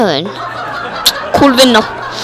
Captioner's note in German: die Leute lachen